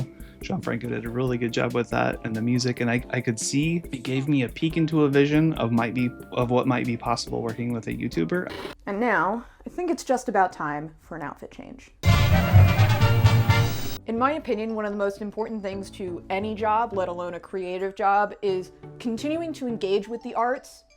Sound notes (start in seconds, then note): 8.4 TV noise; 12.0 circus theme musical sting